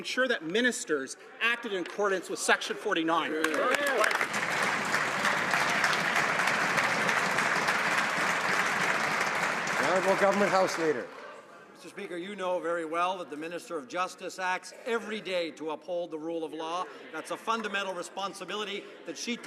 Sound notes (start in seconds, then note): 7.5 some Applause